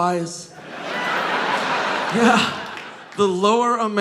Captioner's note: audience laughing